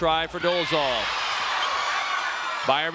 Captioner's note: audience cheering and shouting